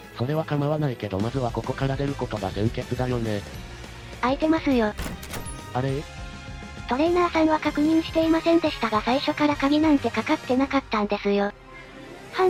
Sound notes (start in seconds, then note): 5.0 click